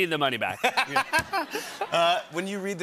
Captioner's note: laughter